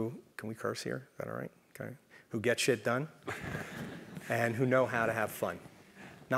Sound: laugh

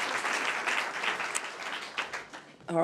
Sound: applause

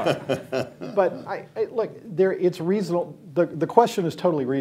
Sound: laughter

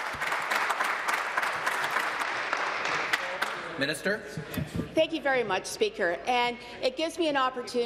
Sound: applause

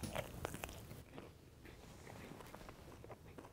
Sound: crunching

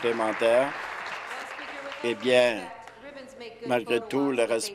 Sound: applause

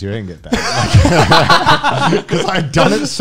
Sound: men laughing

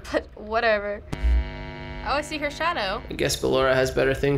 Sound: buzzing

